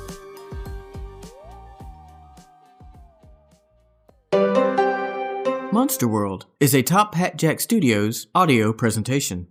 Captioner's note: cat meows